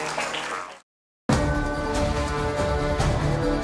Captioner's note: applause